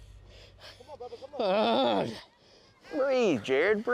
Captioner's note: grunts